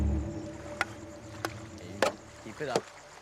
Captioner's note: dramatic music; swords thudding